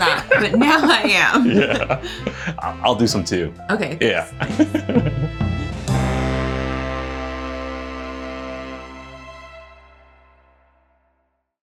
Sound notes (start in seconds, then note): 4.0 laughing; 5.4 string music